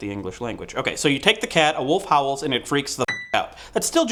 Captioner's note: ding